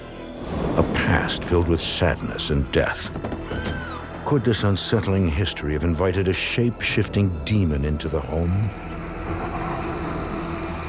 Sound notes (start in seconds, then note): 3.6 woman screams; 8.6 snarling